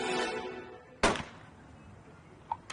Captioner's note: gunshot